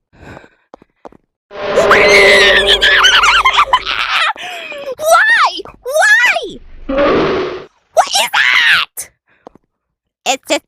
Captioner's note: screaming